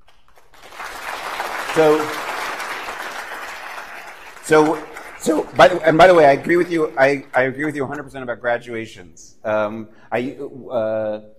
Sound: applause

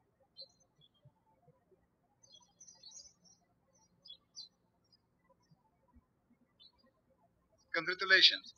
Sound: birds chirping

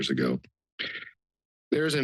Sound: inhales

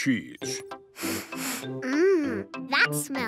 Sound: sniffs

